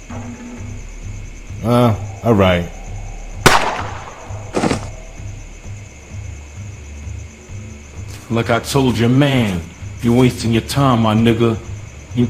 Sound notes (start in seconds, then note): 3.4 gun shoots; 4.0 body falls